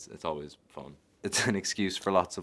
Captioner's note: chuckling